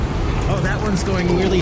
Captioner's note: skittering up